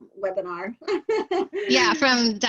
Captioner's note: laughter